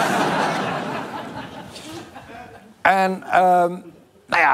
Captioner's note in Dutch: gelach